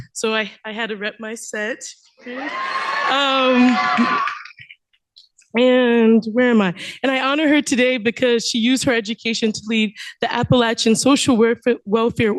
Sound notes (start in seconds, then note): 2.2 cheering